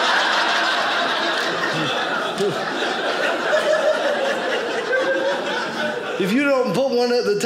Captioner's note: audience laughing